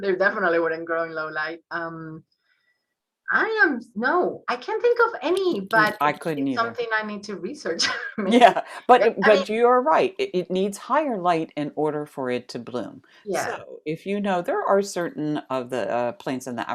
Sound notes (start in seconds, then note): 7.8 chuckles